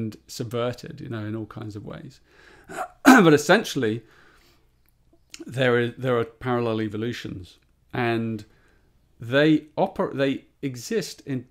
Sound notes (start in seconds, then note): 2.7 clears throat